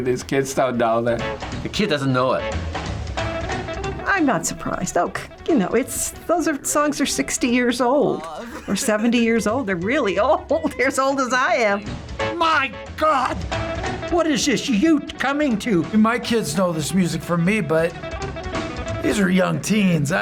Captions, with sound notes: These kids don't know. - The kid doesn't know it. - I'm not surprised. You know, those songs are 60 years old or 70 years old. They're really old. (chuckles) They're as old as I am. - My god! What is this youth coming to?! - My kids know this music from me, but these are young teens.